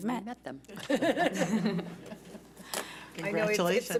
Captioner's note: chuckling